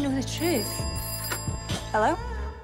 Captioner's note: phone trilling